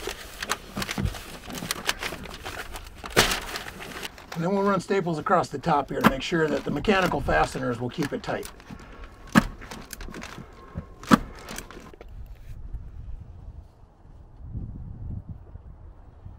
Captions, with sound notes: And then we'll run staples across the top here to make sure that the mechanical fasteners will keep it tight. (wind blowing)